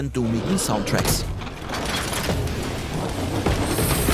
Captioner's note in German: Metallische Geräusche, Krachen